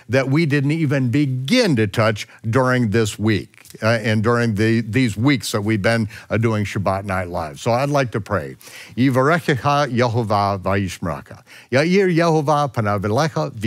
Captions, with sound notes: that we didn't even begin to touch during this week, and during these weeks that we've been doing "Shabbat Night Live", so I'd like to pray. (speaking in foreign language)